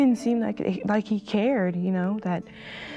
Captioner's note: none